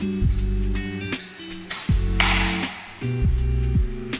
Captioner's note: hammering